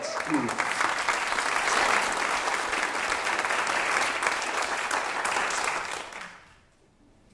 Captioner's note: applause